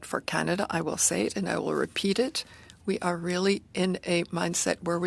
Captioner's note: speaking French